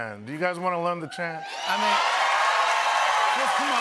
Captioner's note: cheers and applause